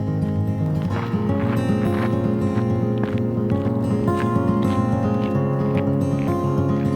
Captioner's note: acoustic guitar music; footsteps crunching